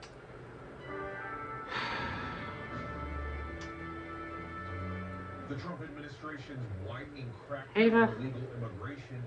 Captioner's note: "21Alive News at 11 with Amir Abass" plays